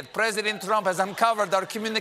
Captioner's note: laughter